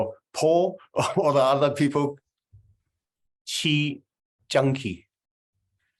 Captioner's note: laughter